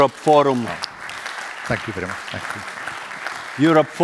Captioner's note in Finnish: Applause